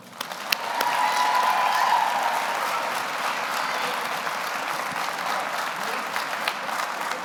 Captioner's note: audience applauds; audience cheers